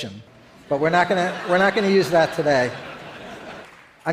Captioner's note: audience laughs